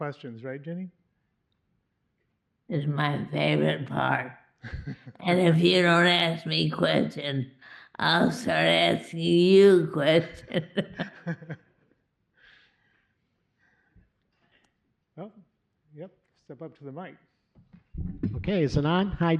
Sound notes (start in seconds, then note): 10.2 laughs